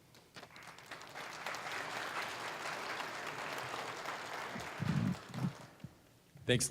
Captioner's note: applause